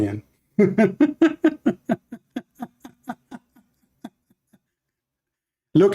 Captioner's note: Ketawa